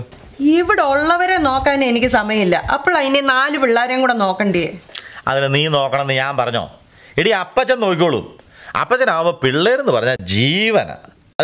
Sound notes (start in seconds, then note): none